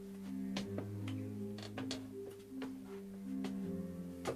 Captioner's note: stairs creaking